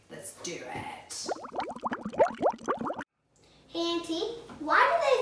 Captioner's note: water bubbling